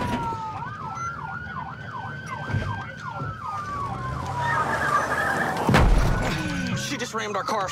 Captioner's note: siren wailing